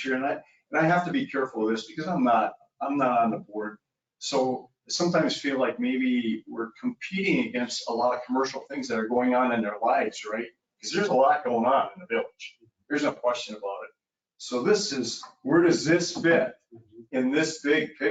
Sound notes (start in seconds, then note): none